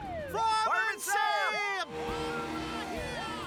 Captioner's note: shouting